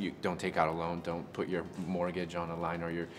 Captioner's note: none